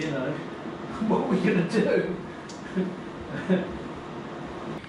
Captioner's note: laughs